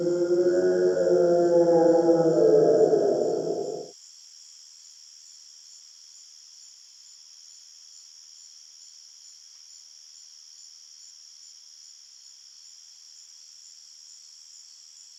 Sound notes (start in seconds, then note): 0.0 another howl; 9.4 crickets chirping